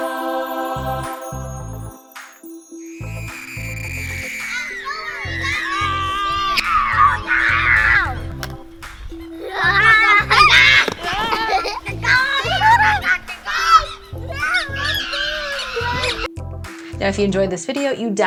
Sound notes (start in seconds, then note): 0.1 cheerful digital music; 3.8 kids screaming